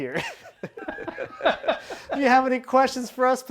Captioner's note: laughs